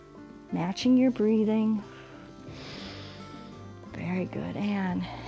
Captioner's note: exhales and inhales